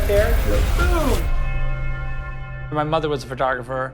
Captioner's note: church bell tolling